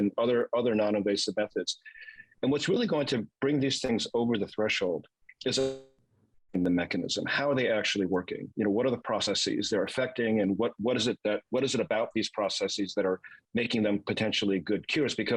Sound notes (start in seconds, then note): 5.4 voice cracks